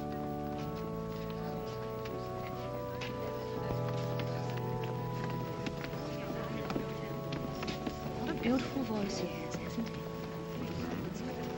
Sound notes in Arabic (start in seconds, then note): 0.0 موسيقى الأورغن الناعمة; 5.3 ثرثرة ناعمة; 11.3 موسيقى الأورغن الناعمة